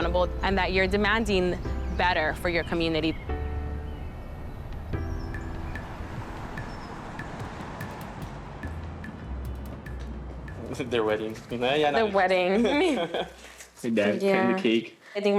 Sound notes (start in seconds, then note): 4.5 soft music; 12.4 chuckling; 12.5 both chuckling